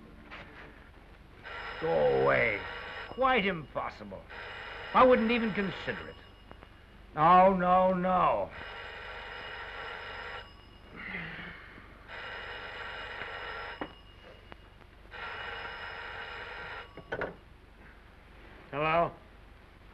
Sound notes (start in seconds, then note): 1.5 telephone rings; 8.6 telephone continues to ring